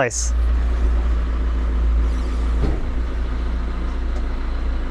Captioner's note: engine rumbling